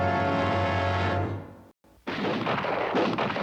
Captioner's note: gunfire